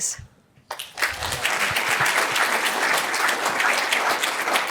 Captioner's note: applause